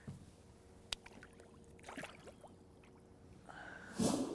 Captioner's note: splashing